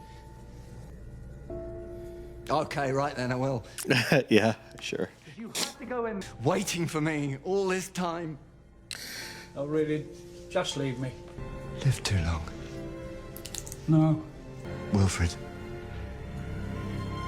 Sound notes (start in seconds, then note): 3.8 small laugh